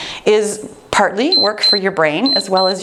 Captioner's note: timer beeps